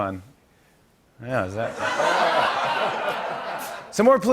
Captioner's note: laughter